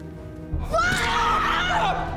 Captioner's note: screaming